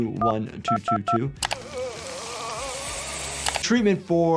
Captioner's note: man groaning; skin sizzling